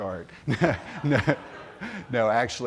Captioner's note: laughter